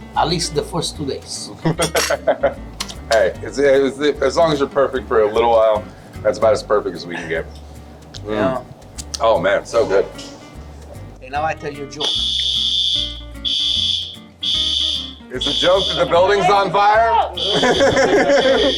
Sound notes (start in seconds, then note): 1.7 laughs; 12.0 fire alarm blaring